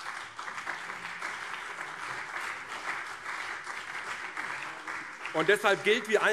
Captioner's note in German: Beifall CDU und SPD